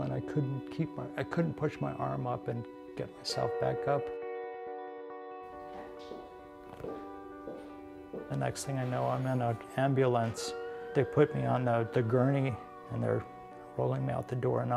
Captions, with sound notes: and I couldn't push my arm up and get myself back up. (footsteps) The next thing I know, I'm in an ambulance. They put me on the gurney and they're rolling me out the door